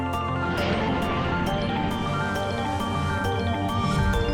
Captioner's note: aircraft whooshing